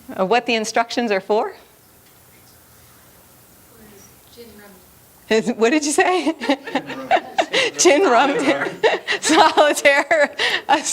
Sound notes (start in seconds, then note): 6.1 laughter